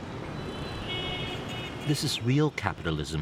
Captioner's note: car horns honking